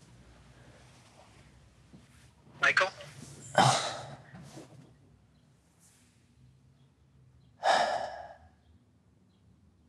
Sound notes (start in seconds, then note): 3.3 groans; 7.6 sighs